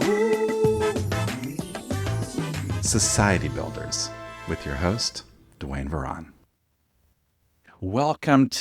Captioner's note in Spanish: voz en off